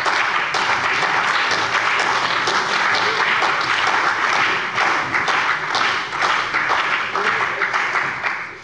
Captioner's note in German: Beifall bei dem BÜNDNIS 90/DIE GRÜNEN und der CDU